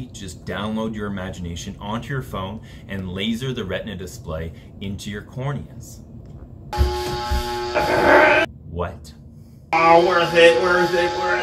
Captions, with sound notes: Just download Your Imagination onto your phone, and laser the retina display into your corneas. (lasers zap) What? All worth it, worth it, worth it, worth it.